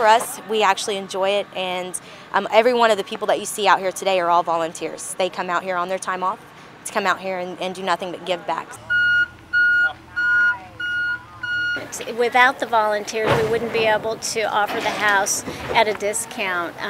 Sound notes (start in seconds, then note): 10.1 trucks backing up